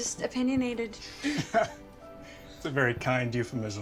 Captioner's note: laughs